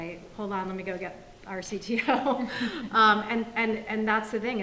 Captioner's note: laughs